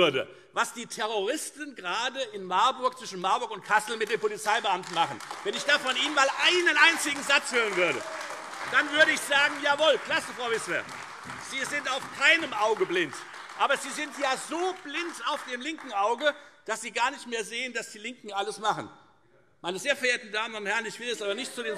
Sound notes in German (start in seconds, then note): 7.8 Beifall Freie Demokraten, AfD und vereinzelt CDU